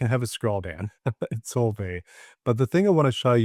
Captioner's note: chuckles